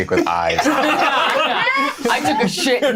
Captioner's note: laughing